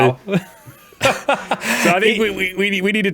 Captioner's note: laughs